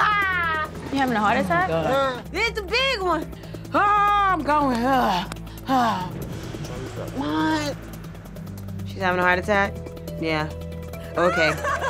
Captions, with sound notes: - You having a heart attack? - Oh my god. - It's the big one! - Oh, I'm going. (huffing) - Try to lay back. - What? - She's having a heart attack? Yeah, okay.